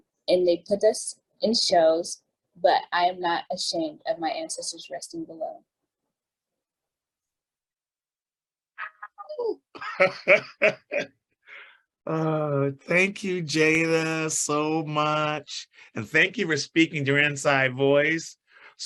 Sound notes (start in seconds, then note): 9.8 chuckles